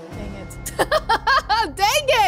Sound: chuckles

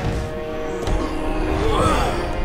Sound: grunting

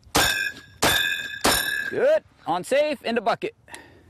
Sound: gunshots

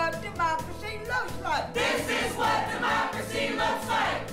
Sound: crowd

